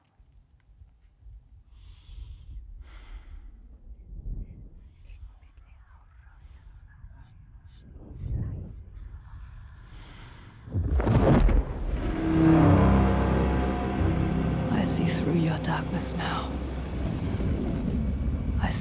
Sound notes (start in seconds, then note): 4.9 whispers; 10.3 flame ignites; 11.5 ominous music